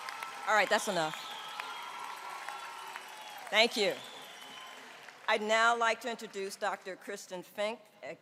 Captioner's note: cheering and applause